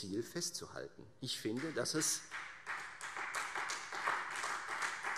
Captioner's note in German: Beifall Freie Demokraten und vereinzelt DIE LINKE